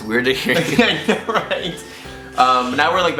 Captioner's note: laughter